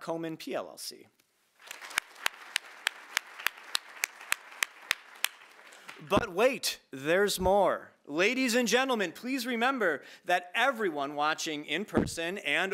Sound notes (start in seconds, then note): 1.6 audience applauding